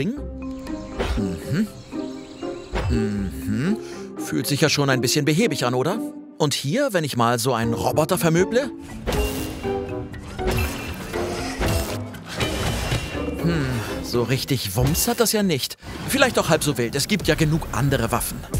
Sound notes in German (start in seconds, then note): 0.0 Neugierige Musik; 8.7 Metallische Geräusche